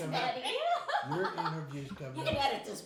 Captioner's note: laughing